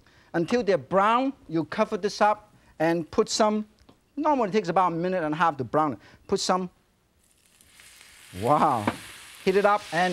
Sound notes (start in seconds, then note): 7.2 pan sizzling